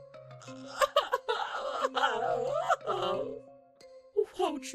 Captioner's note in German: schluchzt wieder